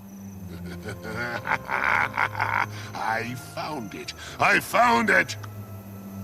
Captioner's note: laugh